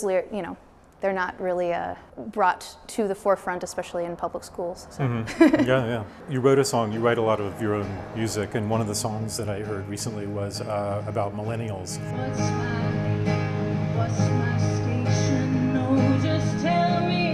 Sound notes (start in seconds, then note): 5.0 laughs